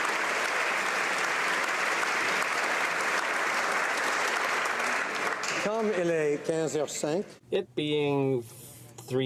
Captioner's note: applause